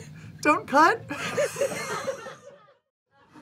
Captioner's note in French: rires